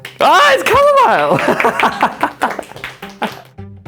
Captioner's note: laughs